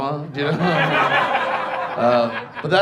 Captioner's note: audience laughs